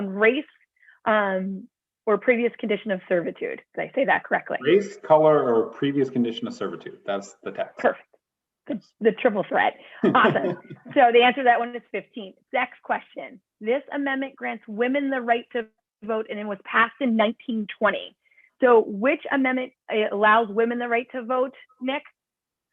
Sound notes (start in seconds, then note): 10.0 laughter